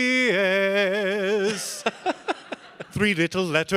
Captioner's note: audience laughing